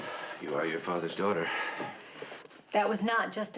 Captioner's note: iç çekiyor